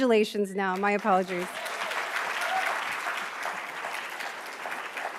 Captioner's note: attendees applauding